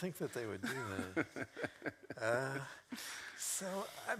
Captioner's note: laughs